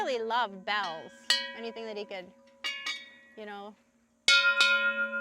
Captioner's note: bells chimes